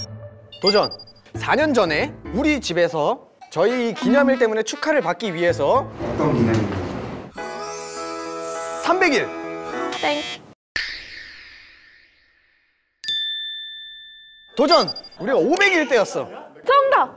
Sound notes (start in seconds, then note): 12.7 confident